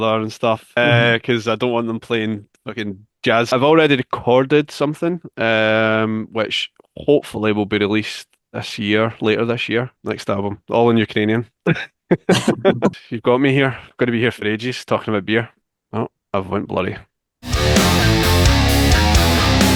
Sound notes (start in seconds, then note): 12.0 laughs; 17.4 metal music